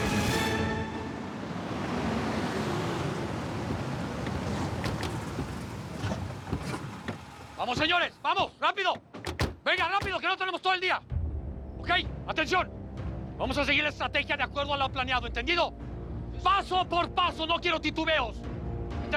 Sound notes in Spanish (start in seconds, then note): 4.3 sonido de motores